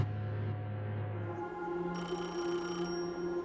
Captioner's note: phone ringing